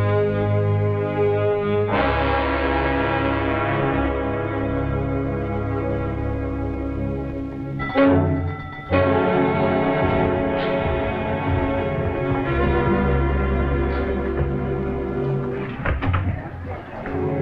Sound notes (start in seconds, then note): 1.9 dramatic music; 7.8 bell dings - dramatic music